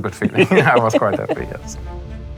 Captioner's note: laughs